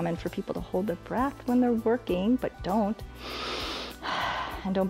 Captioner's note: inhales and exhales